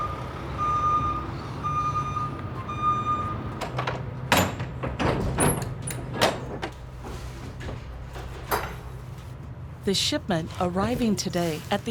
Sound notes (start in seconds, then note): 0.0 truck's reverse signal beeps; 4.2 truck doors opening